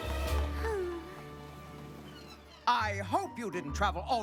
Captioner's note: sighs